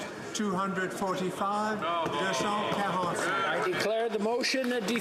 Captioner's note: speaking French